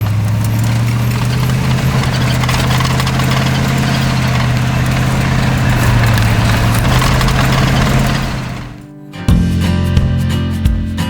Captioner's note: car engine noise